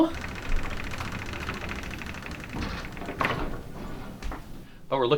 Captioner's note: sound of wheel turning